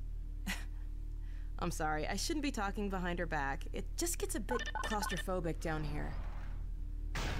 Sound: giggles

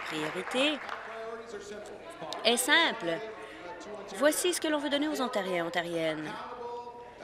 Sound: applause

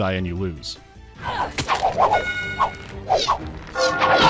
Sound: sounds of combat; bell starts ringing

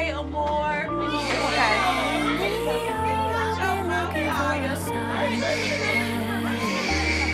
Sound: soft piano music; crying

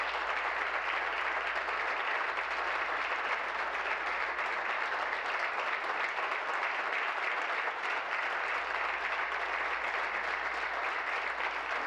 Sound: applause

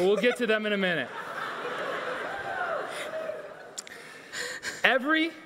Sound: audience laughing

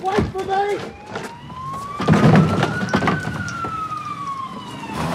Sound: distant police sirens

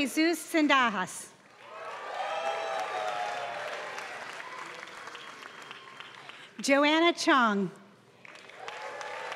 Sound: applause; applause

